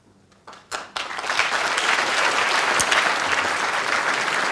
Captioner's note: crowd claps